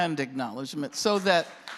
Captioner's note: applause